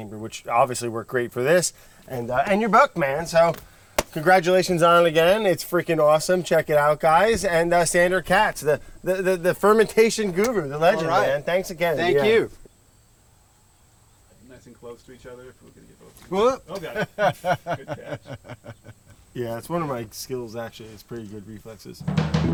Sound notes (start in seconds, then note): 16.4 men laugh; 22.3 upbeat music